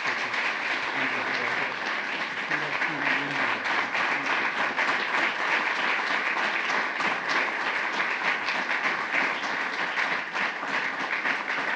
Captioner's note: applause